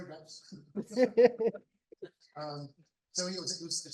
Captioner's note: laughter